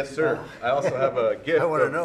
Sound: laughs

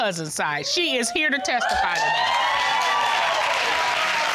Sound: audience cheering

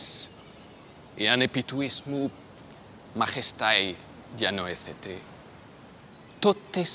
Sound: Themistocles speaking in foreign language

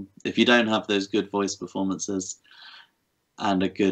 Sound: none

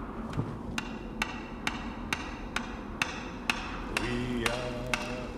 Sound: wind whirring; hammering sound; man's voice singing

